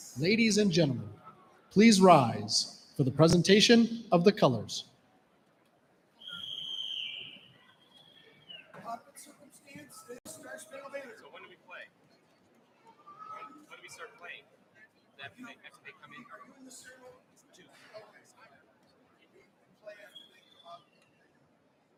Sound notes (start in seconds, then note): 9.6 chatter